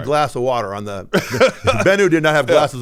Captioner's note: laughing